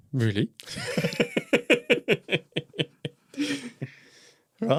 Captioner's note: both laughs